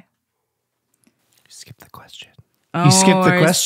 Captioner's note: whispering